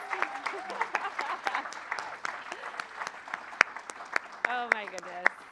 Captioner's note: applause; laughs